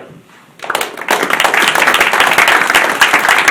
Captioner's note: applause